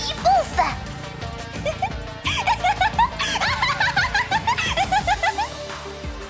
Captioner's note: giggles